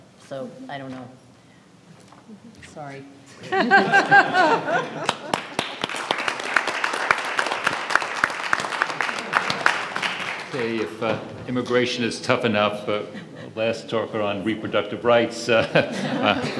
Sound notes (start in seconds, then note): 3.3 audience laughs; 5.6 audience applauds